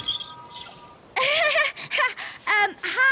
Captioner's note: nervous giggle